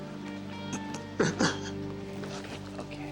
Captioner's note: Jeff cries